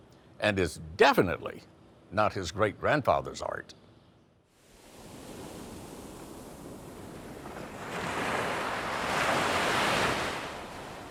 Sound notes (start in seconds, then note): 4.6 waves burbling